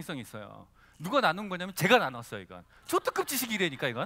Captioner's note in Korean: 웃음